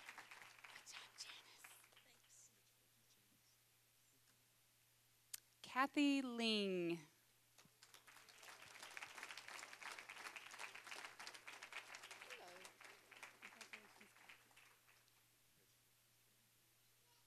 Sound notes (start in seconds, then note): 0.0 applause; 7.5 applause